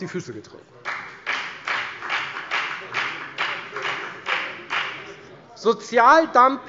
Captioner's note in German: Beifall bei der FDP